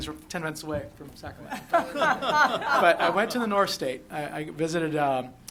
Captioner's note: laughter